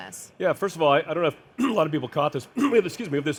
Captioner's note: coughs